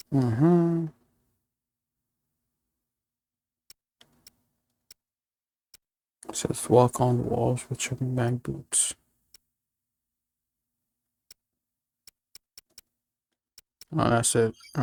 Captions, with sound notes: It says walk on walls with your man boots. [CLICKING] Well, that's it.